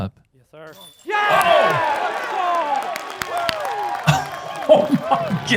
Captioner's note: applause